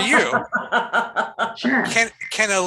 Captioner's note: laughing